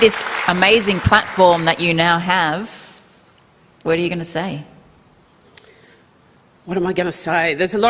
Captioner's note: applause